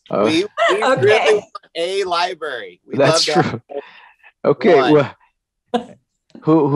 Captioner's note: laughter